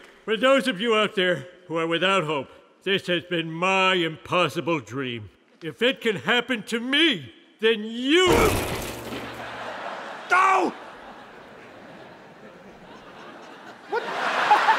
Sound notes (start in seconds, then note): 8.3 crash; 10.5 laughter